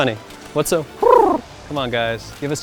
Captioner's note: cooing